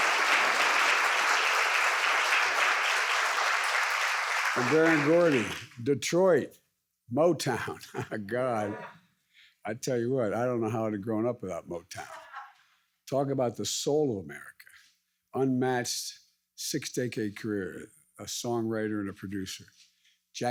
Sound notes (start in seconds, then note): 7.8 laughs